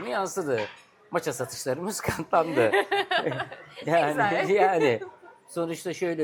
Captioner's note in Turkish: kahkaha